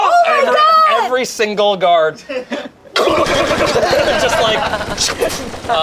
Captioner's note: bullets firing